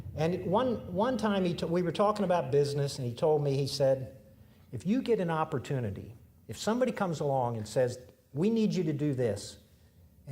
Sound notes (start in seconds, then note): none